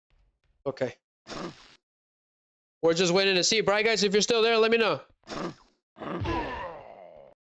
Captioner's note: snorts